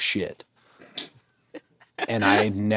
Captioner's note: Natalia laughs